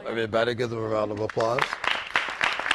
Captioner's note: applause